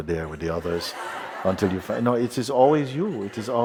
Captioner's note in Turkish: Kahkaha